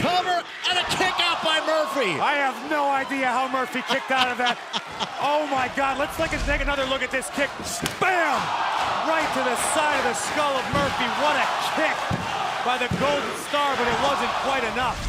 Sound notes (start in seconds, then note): 3.8 laughter